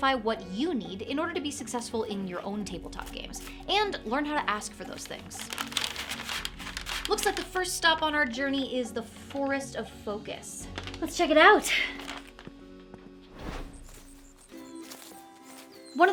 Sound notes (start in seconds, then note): 4.5 paper crinkling; 13.3 screen whooshing; 14.2 birds chirping